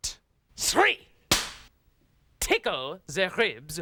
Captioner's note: cracks pointer